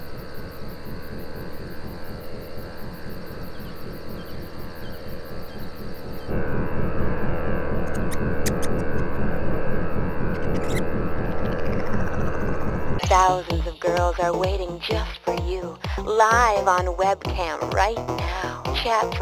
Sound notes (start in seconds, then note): 0.1 distant chirping; 6.9 rodent squeaking